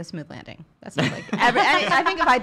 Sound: laughter

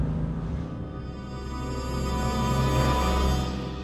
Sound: A sound of a car driving

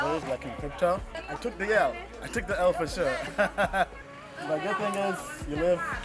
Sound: laughs

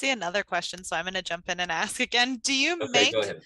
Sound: laugh

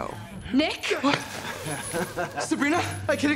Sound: laughing

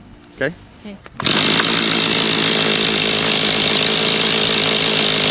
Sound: chainsaw starting

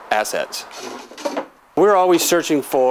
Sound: clunk

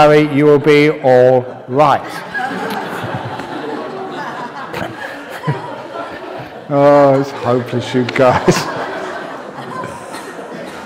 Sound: laughter; chuckles and laughter

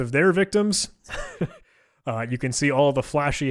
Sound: laughing

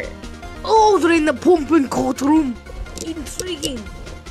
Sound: German accent

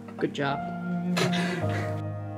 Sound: laughs

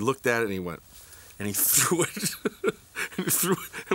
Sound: laughs

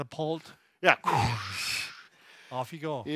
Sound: both imitates whooshing

